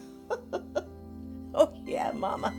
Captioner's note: Caroline laughing